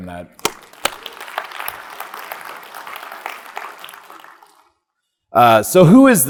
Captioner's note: speaker and audience applauding